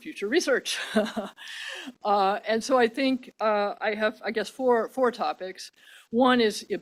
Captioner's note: laughs